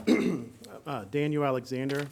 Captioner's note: clears throat